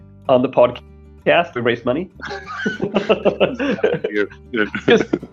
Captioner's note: both laughing